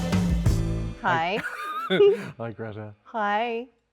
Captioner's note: Andrew laughs